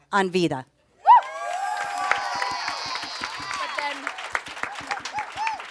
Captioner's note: audience applauds and cheers